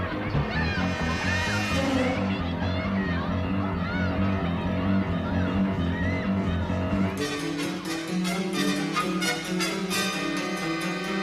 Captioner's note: people screaming